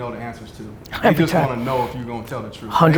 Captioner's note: laughs